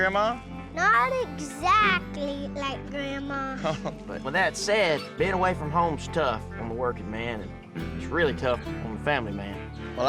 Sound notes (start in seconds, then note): 3.5 chuckles